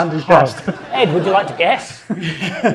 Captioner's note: audience laughing; chuckles